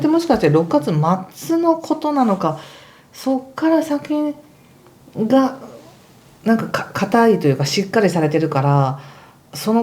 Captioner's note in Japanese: 鼻息